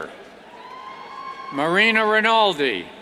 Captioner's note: cheers